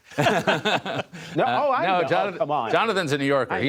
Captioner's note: laughter